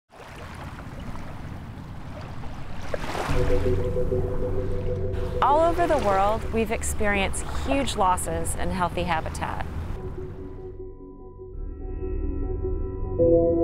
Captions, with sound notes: (waves splashing) (curious music) - All over the world, we've experienced huge losses in healthy habitat.